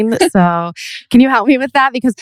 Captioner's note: laughs